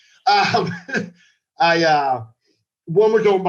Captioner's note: laughs